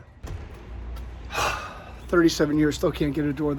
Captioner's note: sighing